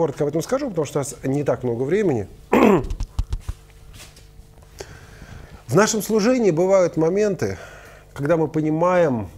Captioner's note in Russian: откашлялся